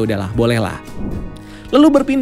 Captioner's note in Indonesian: suara transisi